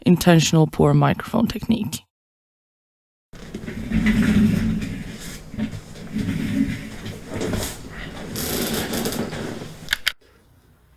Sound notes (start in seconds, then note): 3.3 chair rolls, recorder clicks on